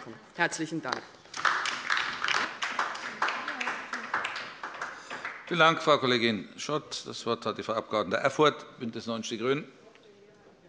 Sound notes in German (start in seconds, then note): 1.3 Beifall bei der LINKEN